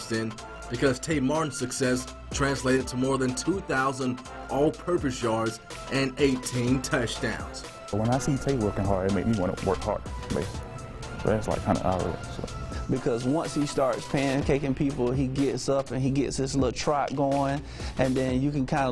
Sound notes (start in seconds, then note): 11.3 faintly speaking